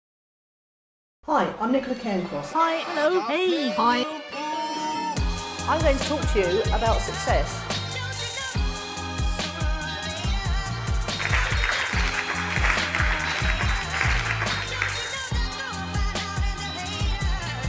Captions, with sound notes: - Hi, I'm Nicola Cairncross. Hi, hello, hey. I'm going to talk to you about success. (upbeat music) (applause) (upbeat music)